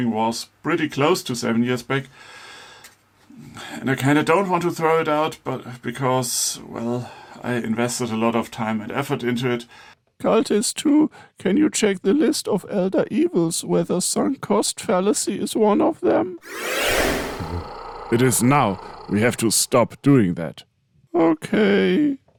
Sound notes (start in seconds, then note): 16.4 Elder Evil Creation Sound Effect